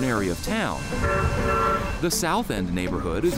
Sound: horn blares

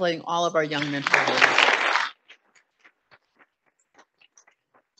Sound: audience applauding

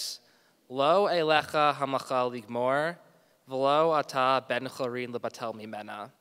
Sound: speaking in a foreign language

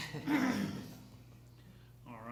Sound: laughter

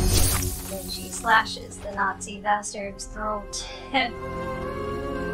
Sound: laughs

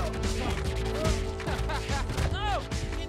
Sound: Miles laughs, then grunts

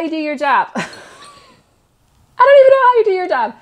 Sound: laughs

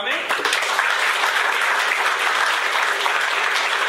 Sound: applause

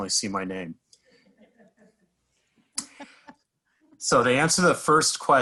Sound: people laughing

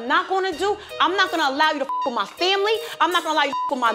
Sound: beep

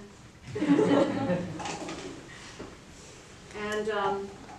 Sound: laughter

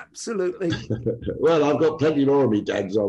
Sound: laughs

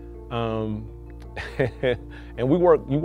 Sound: laughs

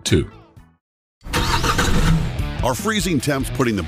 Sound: engine turns

